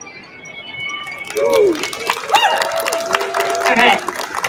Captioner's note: cheers and applause